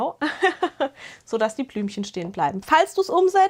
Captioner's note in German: gelächter